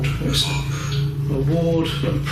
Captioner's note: ghost box speaks